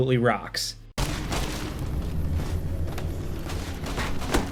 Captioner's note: footsteps